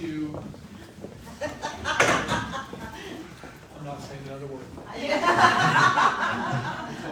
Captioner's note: laughing; laughter